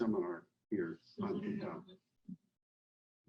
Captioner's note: faintly speaking